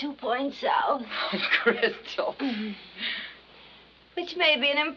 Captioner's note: laughing